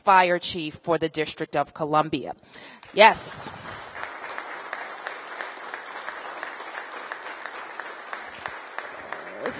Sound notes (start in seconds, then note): 2.8 applause